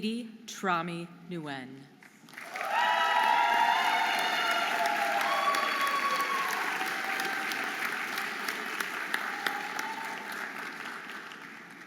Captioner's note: audience applauding and cheering